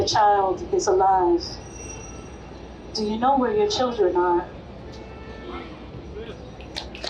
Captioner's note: applause